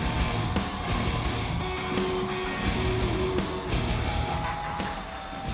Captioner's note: audience continues cheering